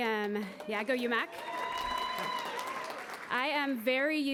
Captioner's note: applause